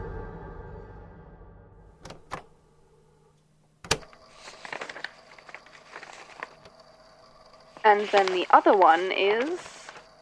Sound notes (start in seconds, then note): 1.9 click; 3.8 pages turning